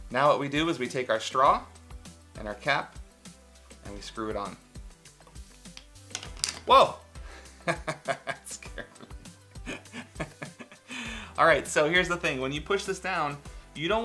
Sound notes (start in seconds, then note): 7.8 laughs